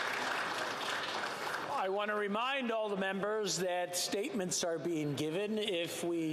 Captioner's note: some Applause